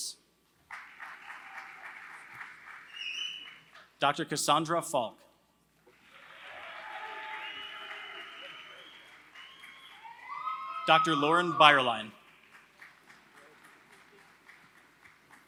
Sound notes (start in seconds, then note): 0.0 applause; 5.9 applause